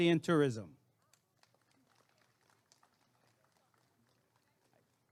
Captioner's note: applause and cheering